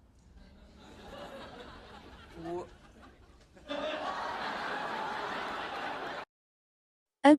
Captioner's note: video sound, audience laughing